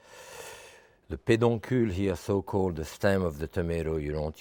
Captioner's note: speaking in French